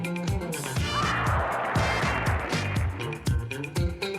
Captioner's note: audience cheers, applause